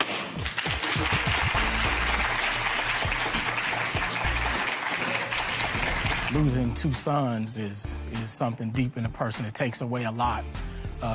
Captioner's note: applause